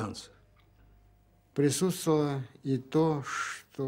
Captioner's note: speaking Russian